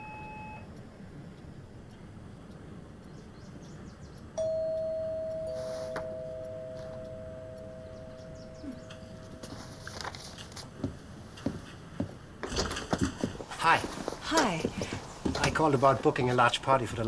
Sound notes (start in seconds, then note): 0.0 fax machine beeping; 4.4 doorbell rings